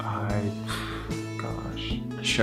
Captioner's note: sigh